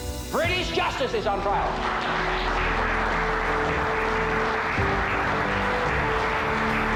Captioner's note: applause